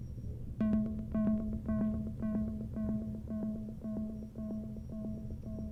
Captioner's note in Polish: Wysokie, krótkie, miarowe, elektroniczne stuknięcia